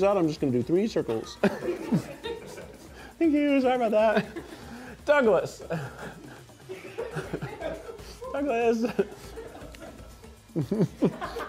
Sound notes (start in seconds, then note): 2.0 crew laughing